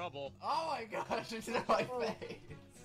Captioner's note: laughing